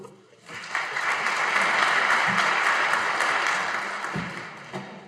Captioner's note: audience applauding